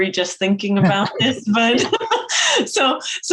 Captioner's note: both laugh